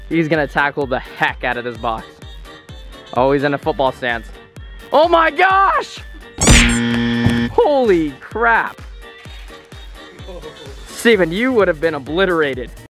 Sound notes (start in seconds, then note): 6.4 buzzer ringing; 9.1 upbeat music